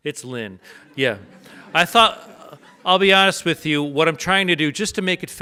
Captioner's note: audience laughs